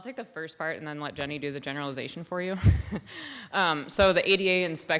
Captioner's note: laughs